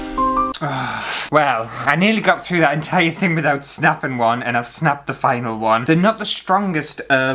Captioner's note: sad Music; sigh!